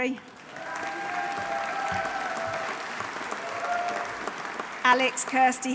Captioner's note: audience applauding; audience cheering